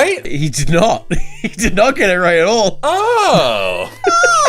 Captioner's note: laughs